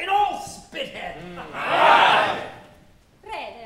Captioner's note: MEN agreeing